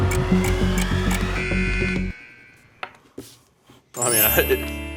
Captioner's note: buzzer